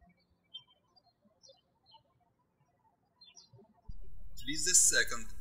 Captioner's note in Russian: птички щебечут